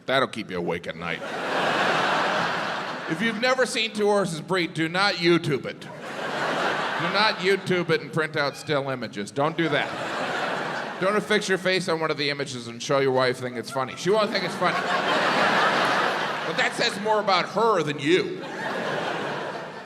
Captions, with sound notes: that will keep you up at night. (crowd laughs) If you've never seen two horses breed, do not YouTube it. Do not YouTube it and print out still images. Don't do that. (crowd laughs) Don't fix your face on one of the images and show your wife thinking it's funny, she won't think it's funny. (crowd laughs) But that says more about her than you.